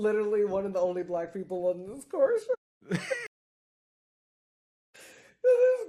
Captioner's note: laughing